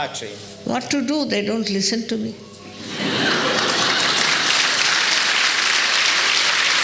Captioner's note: applause